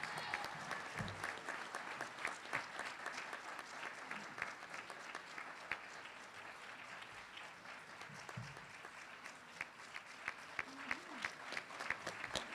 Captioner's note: applause